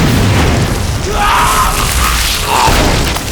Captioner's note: huge explosion; man screams in agony; fleshy explosion